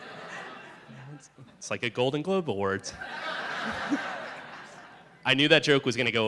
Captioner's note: laughter